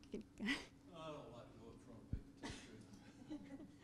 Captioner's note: laughing